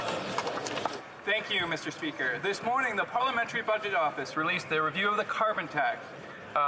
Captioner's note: some Applause